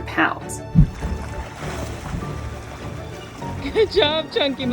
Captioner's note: background music; water splashing sounds; background music